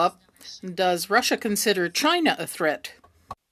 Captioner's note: speaking French